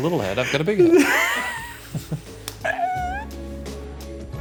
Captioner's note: laughing; gentle music